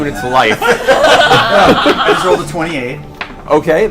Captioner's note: all laugh